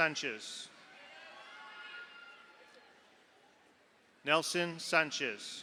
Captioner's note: audience applauds; audience cheers